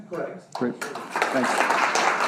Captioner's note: audience clapping